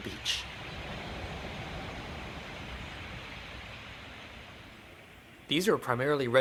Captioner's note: whooshing sound of mass blackbird wings